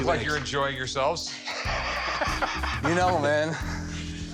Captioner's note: laugh